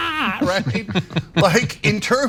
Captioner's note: laugh